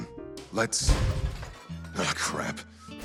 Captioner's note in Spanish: Sonido de ruptura